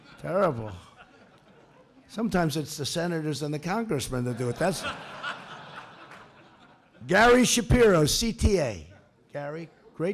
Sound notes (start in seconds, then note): 0.0 laughter; 4.2 laughter